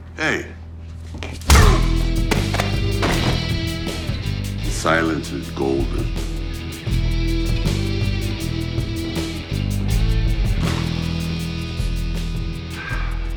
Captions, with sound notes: Hey. (fist thuds) (body thuds) Silence is golden. (upbeat rock music)